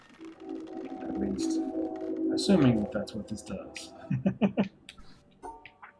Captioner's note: chuckles